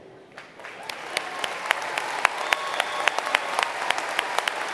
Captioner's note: applause